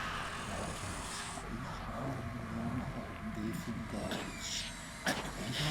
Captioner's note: speaking in foreign language